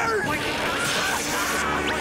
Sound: screaming

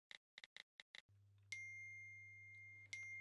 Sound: ping

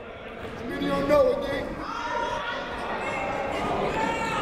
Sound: shouting

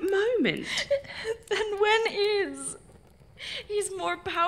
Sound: through tears

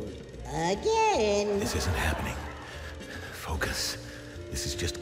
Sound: laughter

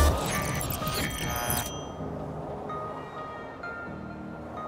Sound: electricity buzzing

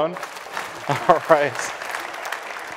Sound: applause

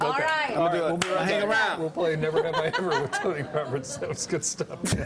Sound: laughter

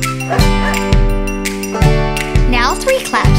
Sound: Bingo barks

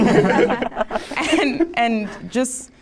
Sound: participants laughing

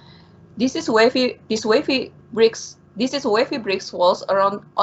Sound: stammers

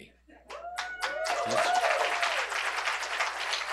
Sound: cheers and applause

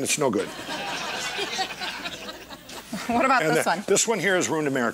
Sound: laughing

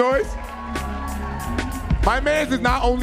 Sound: audience cheering

